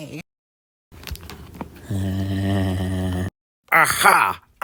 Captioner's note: crinkling, followed by SpongeBob laughing again